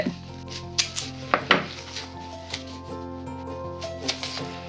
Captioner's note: tape roll thuds; gentle music